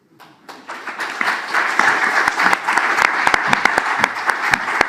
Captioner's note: audience claps